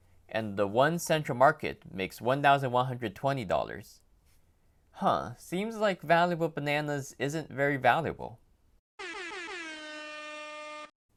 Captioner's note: airhorn